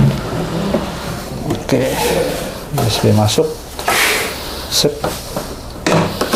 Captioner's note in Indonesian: suara kabel; suara kabel